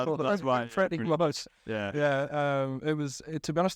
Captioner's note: laughter and crosstalk